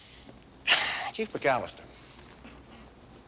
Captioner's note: exhales